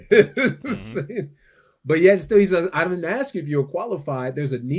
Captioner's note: laughs